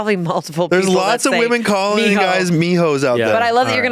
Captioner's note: speaking foreign language